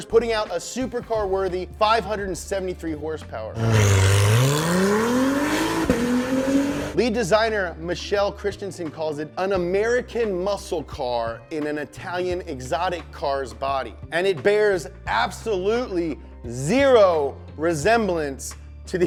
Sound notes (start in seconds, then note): 3.5 engine revving